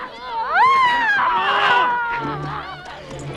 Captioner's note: women screaming; dramatic music